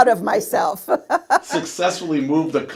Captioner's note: laughs